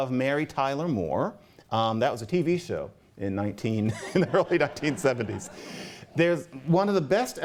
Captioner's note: laughter